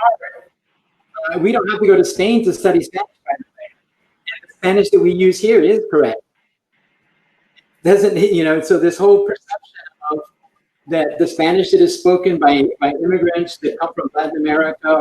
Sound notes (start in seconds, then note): 0.0 broken audio; 5.0 broken audio